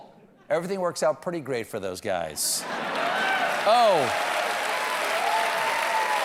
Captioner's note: laughter